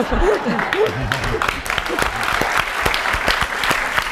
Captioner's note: applause